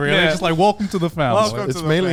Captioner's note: hosts laughing